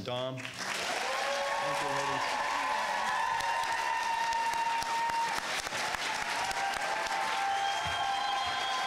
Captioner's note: crowd cheers and claps